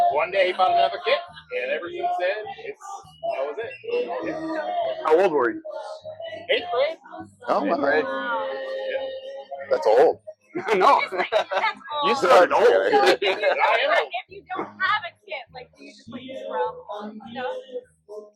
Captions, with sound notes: one day he bought another kit and ever since then its......that was it. Ya.... How old were you? 8th grade? Oh, alright. Wow That's old. (laughs) That's old He started old So if you don't have a kit like do you just like drum on stuff?